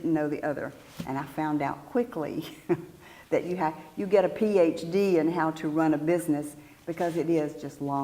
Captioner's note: laugh